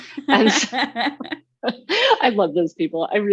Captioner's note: both laughing